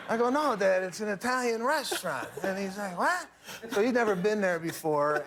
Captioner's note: laughter